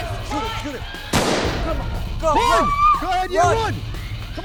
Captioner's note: gun firing